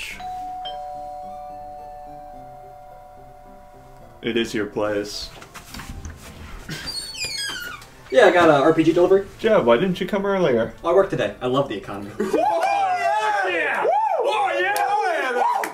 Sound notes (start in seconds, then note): 0.0 doorbell rings; 6.6 door squeaks; 12.2 men cheer